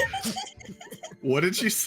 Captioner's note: laughing; all laughing